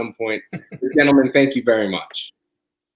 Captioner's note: laugh